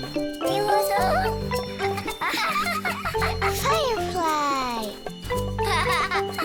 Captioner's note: speaks in foreign language; both laughing